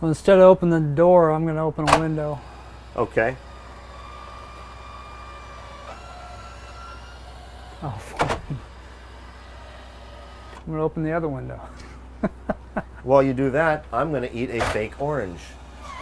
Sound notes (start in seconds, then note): 4.1 window motor whirring; 11.6 laughing